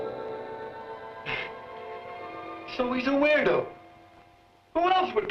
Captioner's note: chuckles